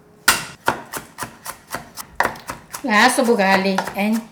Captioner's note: knife crushing; knife chopping